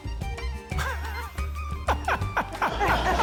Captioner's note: laughs; laughter